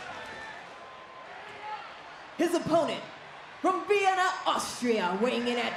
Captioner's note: crowd cheers